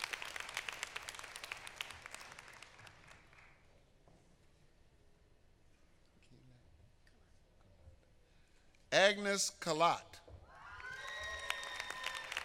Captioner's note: applause